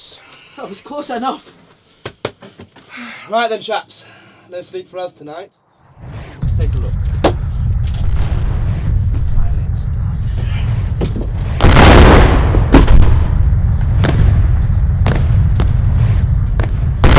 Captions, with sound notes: It was close enough. Right, then, chaps. No sleep for us tonight. Let's take a look. It's finally started. (GUNSHOTS)